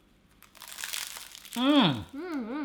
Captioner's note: crunch